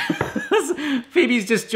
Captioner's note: laughs